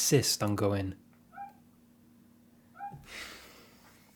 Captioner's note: frog call intensifies